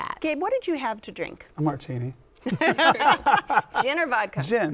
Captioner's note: laughter